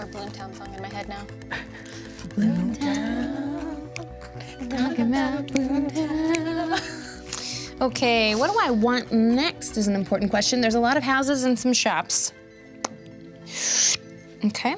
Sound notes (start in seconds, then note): 1.7 everyone chuckles quietly; 3.0 all quietly hum or sing; 5.3 snaps